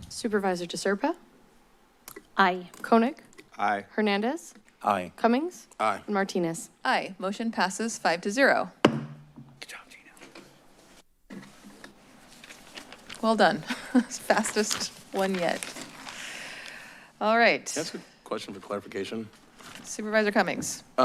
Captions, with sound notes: - Supervisor De Serpa? - Aye. - Koenig? - Aye. - Hernandez? - Aye. - Cummings? - Aye. - Martinez? - Aye. Motion passes five to zero. [gavel tap] - Good job, Gina, thank you. - Well done. [chuckles] Fastest one yet. All right. - Can I ask you a question for clarification. - Supervisor Cummings.